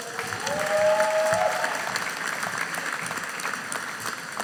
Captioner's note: audience cheering